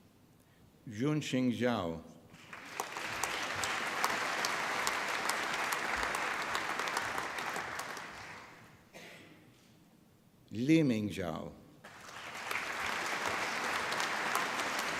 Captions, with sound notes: Junxing Zhao. (APPLAUSE) Liming Zhao. (APPLAUSE)